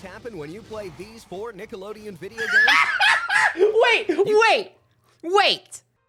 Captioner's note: laughing